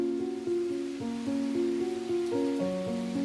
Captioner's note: sound of Rain